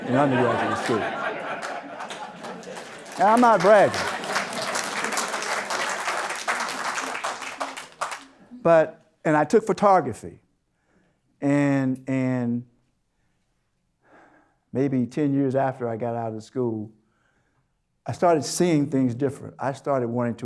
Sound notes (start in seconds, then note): 0.1 audience Laughter; 6.2 applause